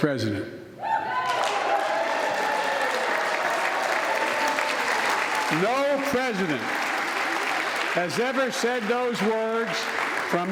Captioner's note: applause